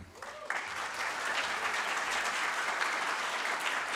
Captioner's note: audience claps